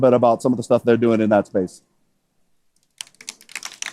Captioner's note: applause